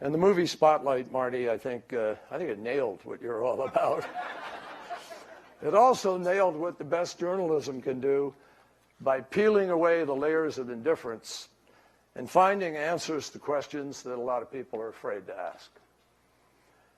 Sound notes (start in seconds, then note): 3.7 laughter